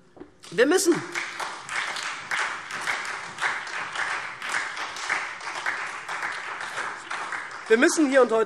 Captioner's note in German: Beifall SPD